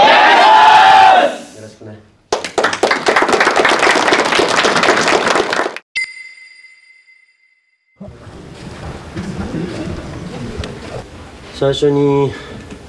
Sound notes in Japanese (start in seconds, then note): 2.3 拍手; 6.0 ピックアップ 効果音